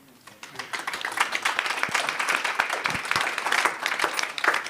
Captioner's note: applause